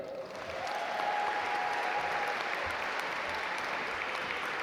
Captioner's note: audience applaud